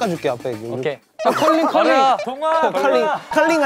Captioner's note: wiping